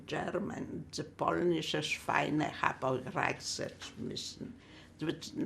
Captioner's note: german